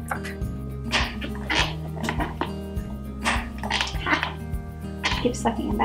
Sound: weird AF sucking noises

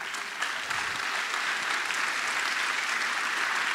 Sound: applause

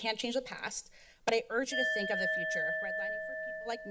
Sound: alarm sound

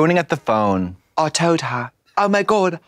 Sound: British accent

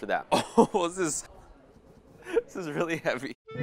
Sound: laughing

